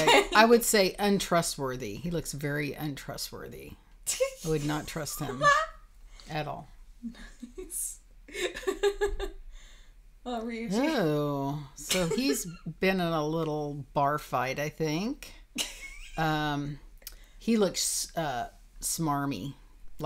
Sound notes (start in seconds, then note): 7.4 laughing